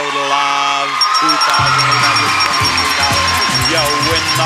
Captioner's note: audience cheers; bell dings